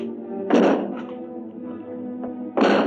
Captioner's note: banging